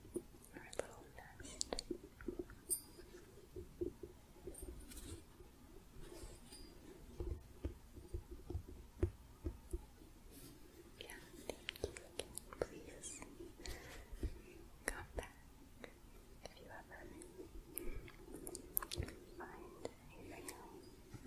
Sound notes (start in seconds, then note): 2.1 jingling, gentle tapping; 21.0 gentle shuffling